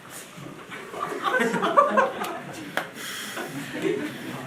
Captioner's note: laughing